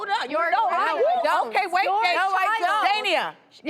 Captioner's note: people arguing